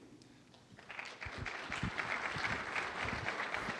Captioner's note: applause